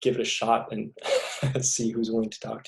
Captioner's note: laughing